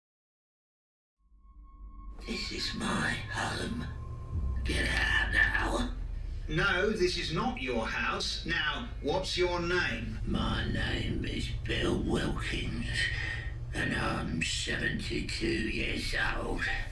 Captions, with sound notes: [whispers] This is my home. Get out now. No, this not your house. Now, what's your name? My name is Bill Wilkins and I'm 72 years old.